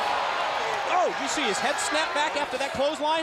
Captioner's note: crowd cheering